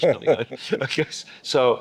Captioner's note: both laughing